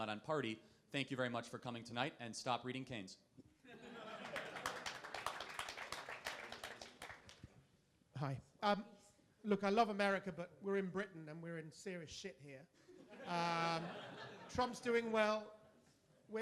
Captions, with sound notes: not on party. Thank you very much for coming tonight and stop reading Keynes. (crowd laughing) (crowd applauding) - Hi. Look, I love America but we're in Britain and we're in serious shit here. (crowd laughing) Trump's doing well.